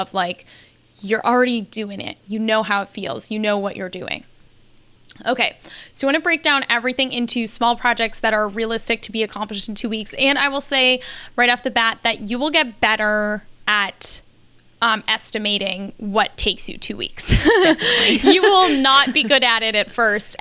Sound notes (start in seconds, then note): 17.2 laughs